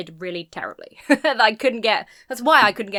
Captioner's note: chuckles